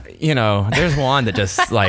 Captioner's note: laughing